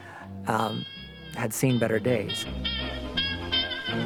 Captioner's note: radio Announcer